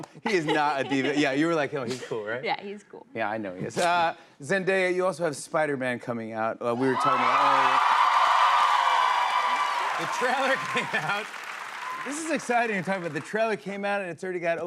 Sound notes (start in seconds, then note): 8.4 cheers and applause